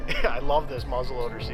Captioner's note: laughs